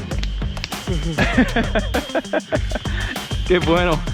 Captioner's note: laughing